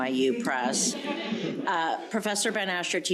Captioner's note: crowd laughing